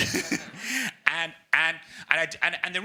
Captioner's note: laughs